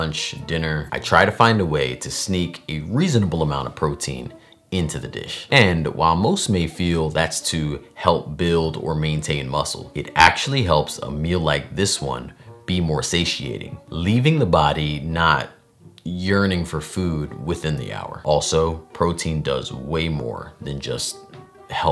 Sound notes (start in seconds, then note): none